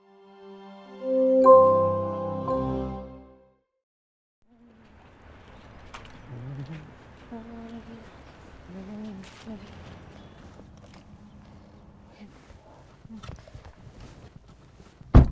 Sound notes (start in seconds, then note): 0.6 soft ambient music; 7.3 humming